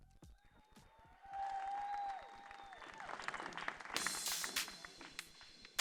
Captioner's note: audience cheering; spirited upbeat music